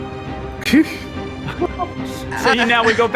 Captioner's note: chuckles